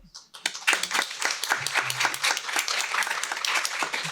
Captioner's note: applause